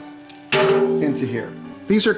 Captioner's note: metal clanging